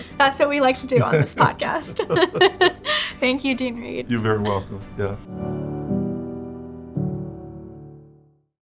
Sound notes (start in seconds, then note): 0.8 both laughing; 5.2 gentle music